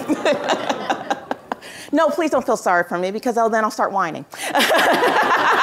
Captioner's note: laughter